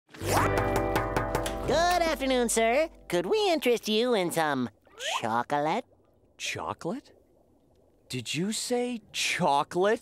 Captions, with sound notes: [knocking] Good afternoon, sir. Could we interest you in some chocolate? Chocolate? Did you say "chocolate"?